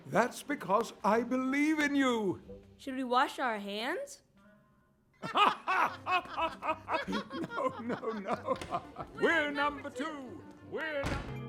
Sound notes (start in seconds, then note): 5.2 Poop and Poop Jr. laughing